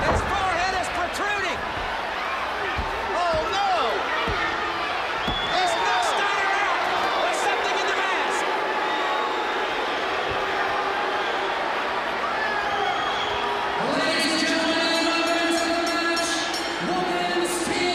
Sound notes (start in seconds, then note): 4.2 crowd chatter; 8.6 crowd chatter